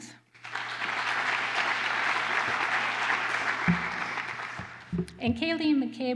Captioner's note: applause